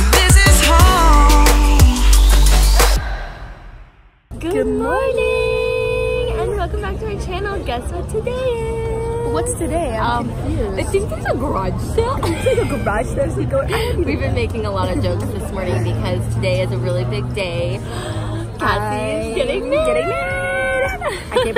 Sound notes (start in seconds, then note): 11.9 laughs; 17.8 gasps